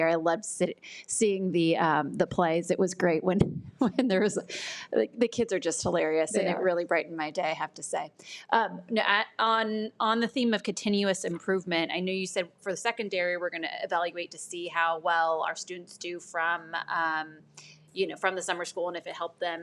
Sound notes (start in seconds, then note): none